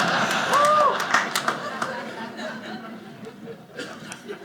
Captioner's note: audience clapping; audience laughing